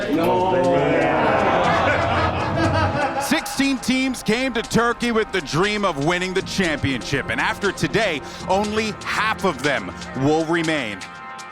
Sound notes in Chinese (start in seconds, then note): 0.2 大笑